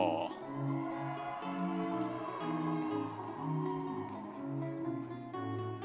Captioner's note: audience members cheering